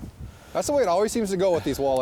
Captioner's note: voiceover